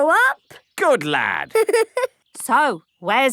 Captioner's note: giggling